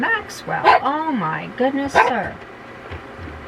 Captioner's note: bark